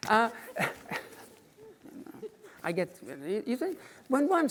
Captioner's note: woman giggling